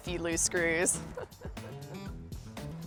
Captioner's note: laughs sarcastically